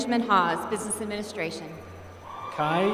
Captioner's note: applause